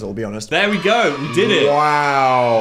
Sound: children cheering

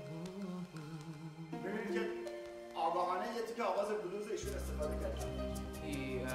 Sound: speaking in farsi

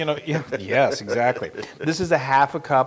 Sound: laugh

